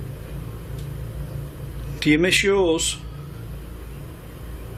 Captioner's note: none